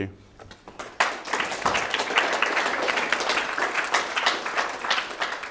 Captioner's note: attendees applauding